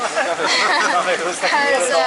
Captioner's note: laughing